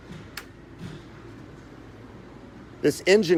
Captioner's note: switch clicks